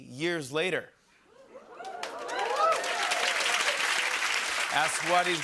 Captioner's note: cheering and applause